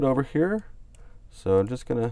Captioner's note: clicks on mouse